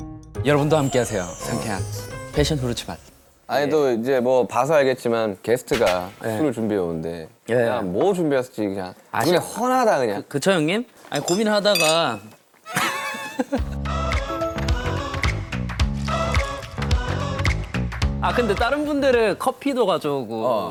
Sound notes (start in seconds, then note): 11.0 rummage